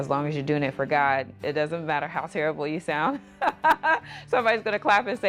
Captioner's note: laughs